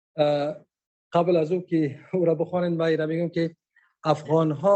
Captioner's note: speaking dari